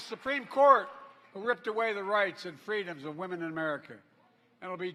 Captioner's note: applause